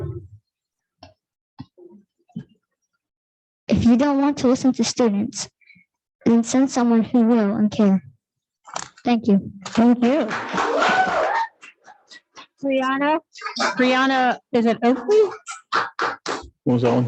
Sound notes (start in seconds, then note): 9.7 audience clapping